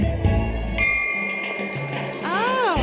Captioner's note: bell dings; fast tempo jazz music